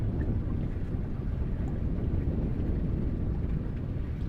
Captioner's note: wind whooshing; water rippling